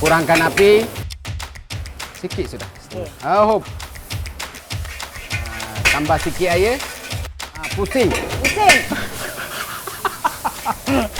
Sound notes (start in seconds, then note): 9.3 laughs